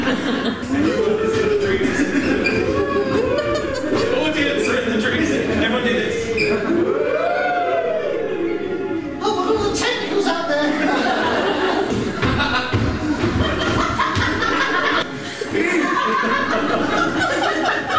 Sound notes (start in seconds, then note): 2.1 audience going "Woooo!"; 6.7 audience going "Woooo!" even louder